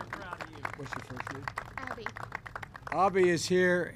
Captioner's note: applause